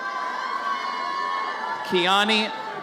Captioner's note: audience cheers